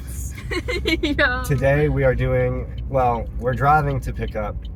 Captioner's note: laughing